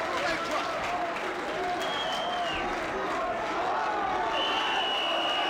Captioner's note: audience applauding; whistle blowing